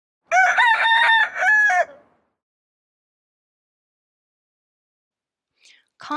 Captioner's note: rooster crows